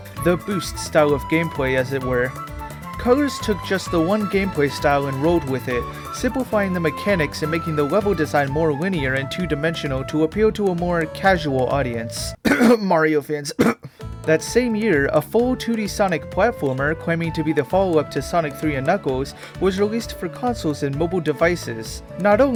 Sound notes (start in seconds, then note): 12.4 cough; 12.4 cough cough